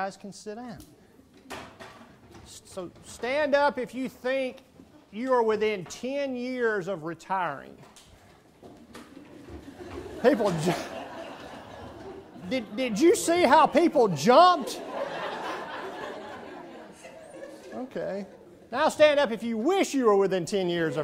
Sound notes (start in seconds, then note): 10.0 laughing